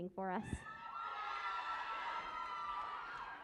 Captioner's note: cheering and applause